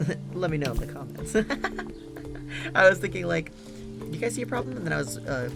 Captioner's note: laughs